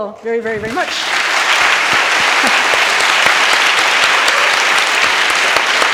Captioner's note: audience applauding